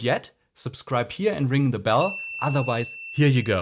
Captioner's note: bell rings